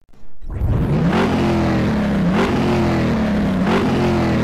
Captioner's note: car revving